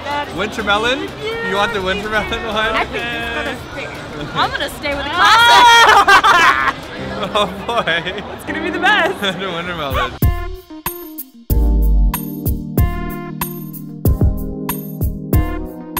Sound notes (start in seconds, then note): 5.0 laugh; 10.5 sexy Food Music